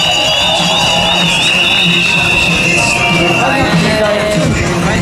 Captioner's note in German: Jubel, klatschen